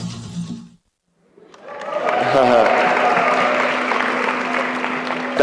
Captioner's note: applause